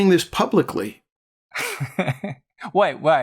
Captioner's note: laughter